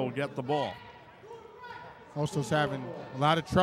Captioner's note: yelling